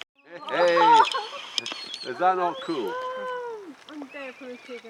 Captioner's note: audience reacting